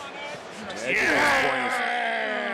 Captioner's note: Finn groaning